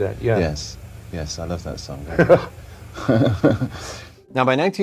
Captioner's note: laughing